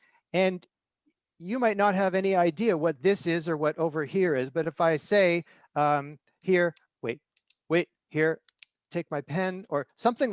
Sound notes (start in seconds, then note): 8.5 clicking pen